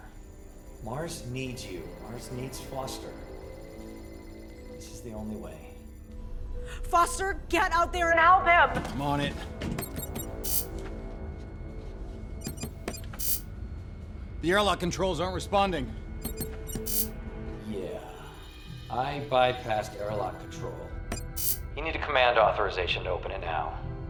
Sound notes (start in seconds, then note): 9.8 beeping